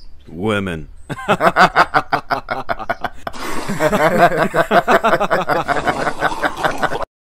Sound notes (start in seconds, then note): 1.1 laughing; 3.2 sip; 4.0 laughing; 5.7 sip